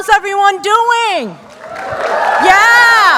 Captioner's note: applause